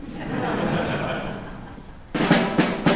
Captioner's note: laughter